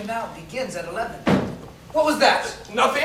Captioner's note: thump